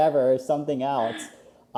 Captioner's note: laughs